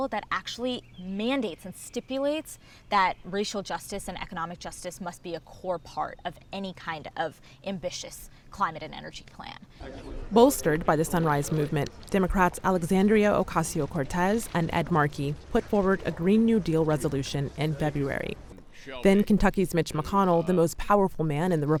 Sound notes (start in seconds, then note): 9.8 crowd chatting